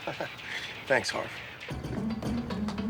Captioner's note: laughs